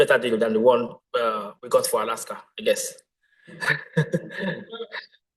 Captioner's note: laughs